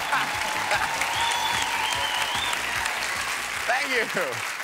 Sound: audience cheering; laughing

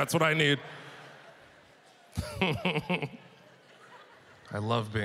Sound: audience laughter

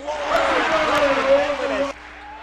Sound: loud cheering

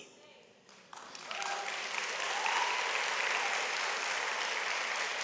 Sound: audience applauds

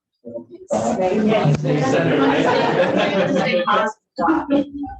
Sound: audience chattering

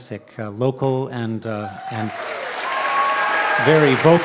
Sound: audience cheers and applauds

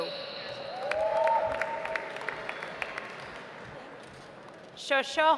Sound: audience applauds

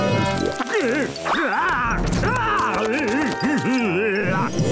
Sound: groaning

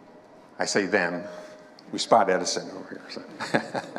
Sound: chuckling

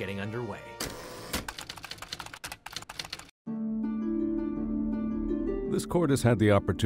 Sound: tense music; typewriter clicks

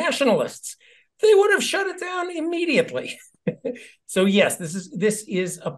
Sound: laugh

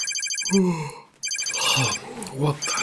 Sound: phone ringing; yawn

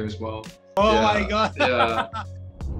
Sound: laughing

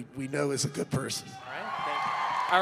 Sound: cheering

